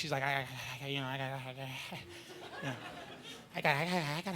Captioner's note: mocking stammering